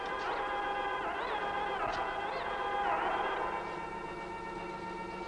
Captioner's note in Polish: Aplauz